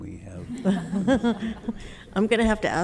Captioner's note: all laughing